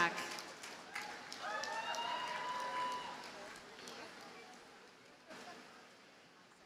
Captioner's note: audience cheers and applauds